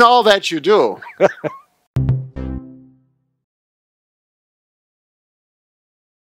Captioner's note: laughing; upbeat music